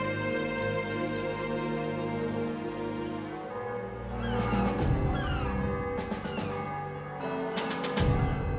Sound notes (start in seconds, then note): 4.2 bells ring